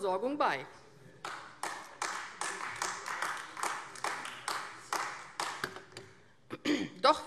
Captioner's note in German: Beifall AfD